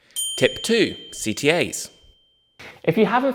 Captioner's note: bell dings